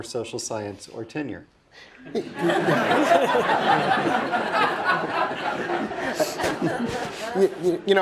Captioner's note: laugh